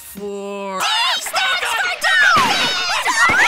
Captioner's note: screams in terror